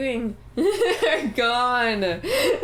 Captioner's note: laughing; laughter